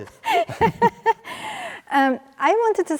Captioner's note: both laugh